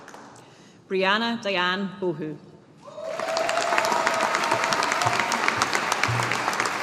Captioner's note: audience applauding